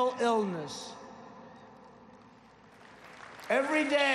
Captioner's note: applause